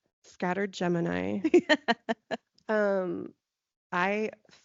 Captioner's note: laughing